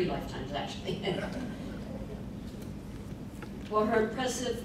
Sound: laughing

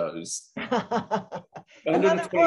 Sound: laughing

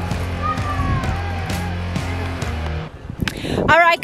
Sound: child whining

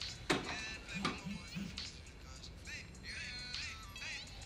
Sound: phone buzzing

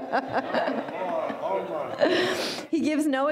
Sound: laughing

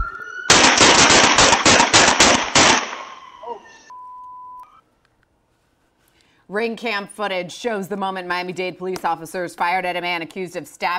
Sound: gunshots

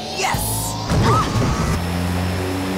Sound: screaming

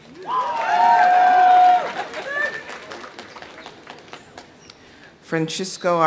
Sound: audience cheering; audience applauding; laughs

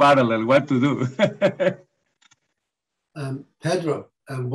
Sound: laugh

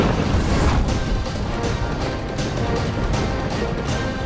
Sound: conch blows

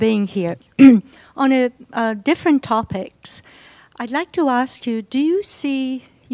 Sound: cough

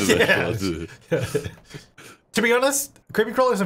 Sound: laughing

